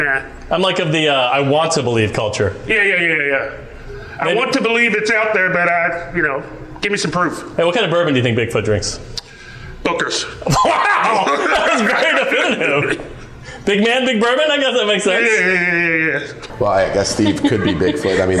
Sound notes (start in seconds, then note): 10.4 loud laughing